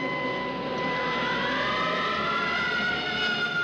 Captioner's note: police siren wailing